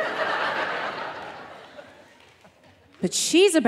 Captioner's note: audience laughing